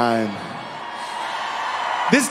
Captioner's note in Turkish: Seyirciler neşeleniyor